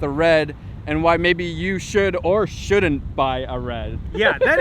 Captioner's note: laughs